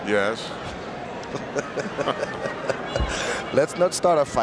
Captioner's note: both laughing